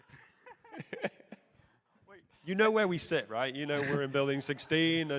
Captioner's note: laughter